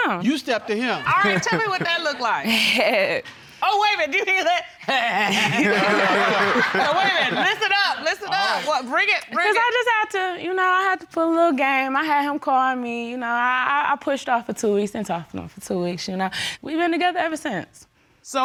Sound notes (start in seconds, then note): 2.4 chuckles; 5.0 imitates chuckling; 5.0 all laughing